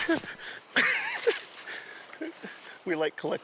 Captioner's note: laughing